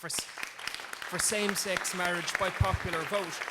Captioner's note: crowd Clapping